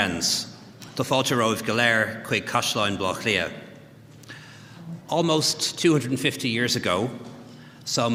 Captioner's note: speaking Gaelic